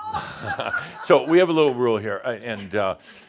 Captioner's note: some laughter